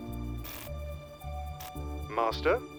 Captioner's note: Washington glitching